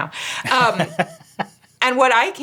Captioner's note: laughing